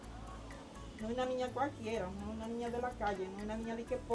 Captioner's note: speaking Spanish